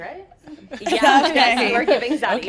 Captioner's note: laughs